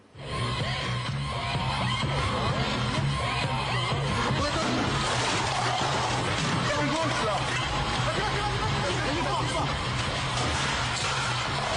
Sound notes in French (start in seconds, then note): 7.4 Cris de la foule